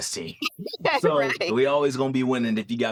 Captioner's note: laughs